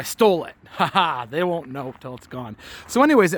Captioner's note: chuckling